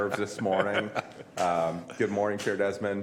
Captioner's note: laughter